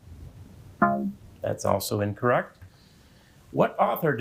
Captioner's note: buzzer beeping